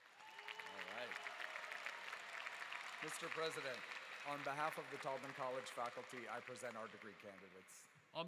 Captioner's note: applause